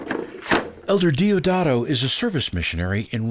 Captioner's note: chairs clattering